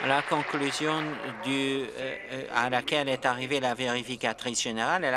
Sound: applause

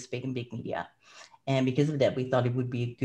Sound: breath

